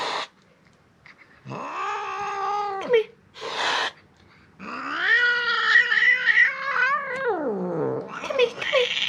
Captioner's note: hissing, growling